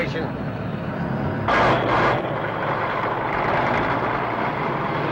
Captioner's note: engines whirring